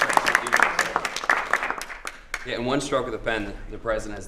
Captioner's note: applause